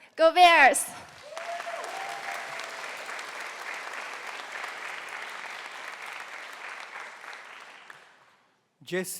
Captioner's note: cheering